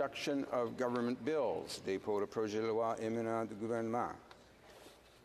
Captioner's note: speaking French